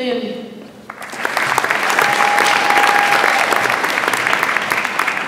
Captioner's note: audience applauds